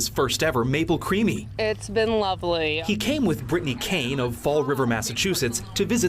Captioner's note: sound of feeding dog ice cream